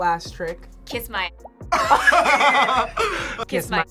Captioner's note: both laugh